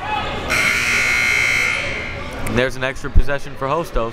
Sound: buzzer

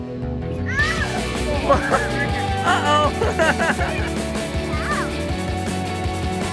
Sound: little boy yells; laughs

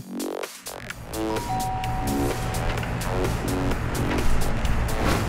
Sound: doorbell chimes

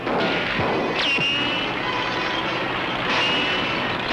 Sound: shots whistle

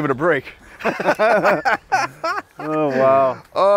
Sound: laugh

